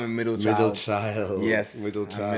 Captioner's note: laughs